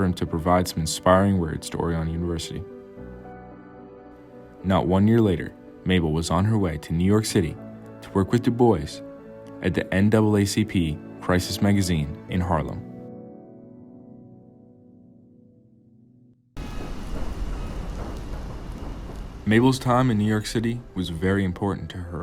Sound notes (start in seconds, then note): 13.2 gentle music fades; 16.6 train rumbling